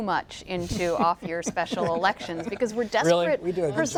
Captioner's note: laughter